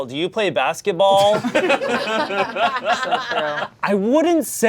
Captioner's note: audience laughing